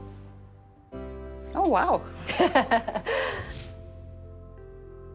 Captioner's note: light music; laughs